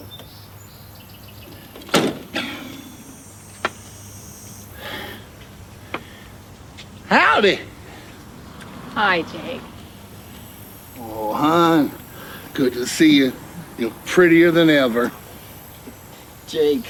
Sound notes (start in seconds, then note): 0.1 birds chirping; 1.7 car door slams; 4.7 Jake sighs